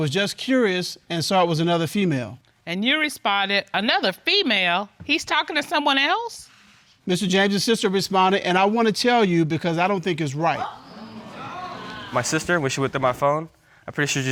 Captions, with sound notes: "I was just curious and saw it was another female." And you responded, "Another female? He's talking to someone else?" Mr. James' sister responded, "And I want to tell you because I don't think it's right." (AUDIENCE EXCLAIMING) My sister, when she went through my phone,